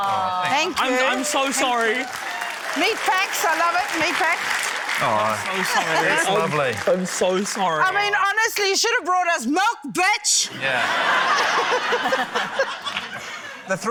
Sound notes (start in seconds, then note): 0.0 audience 'aww's; 4.6 applause; 10.6 laughter